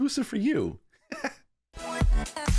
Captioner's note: laughs; upbeat music